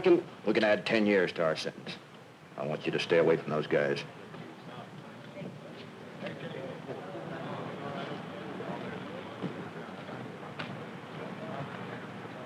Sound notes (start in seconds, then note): none